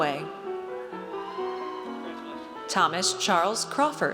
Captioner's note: audience cheers